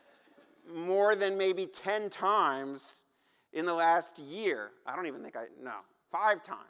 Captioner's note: laughter